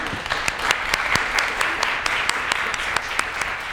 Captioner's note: applause